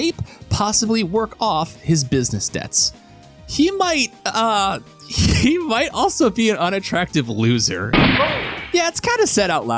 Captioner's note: gunshot